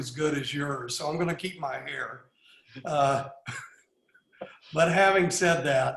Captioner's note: laughs